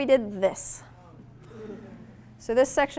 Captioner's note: audience groans